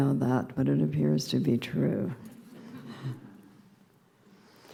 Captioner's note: subdued laughter